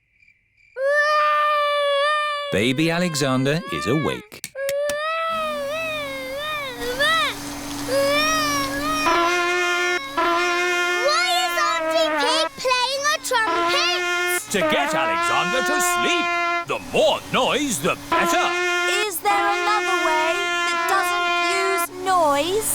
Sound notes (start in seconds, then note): 0.8 baby alexander crying; 5.0 vacuum cleaner whirring; 8.8 trumpet blowing